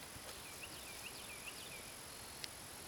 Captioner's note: bird chirping